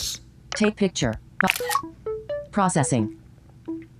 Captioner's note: {click, jingle